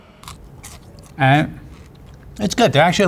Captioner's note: crunches on fry